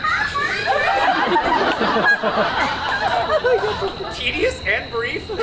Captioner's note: child laughs exaggeratedly; audience laughs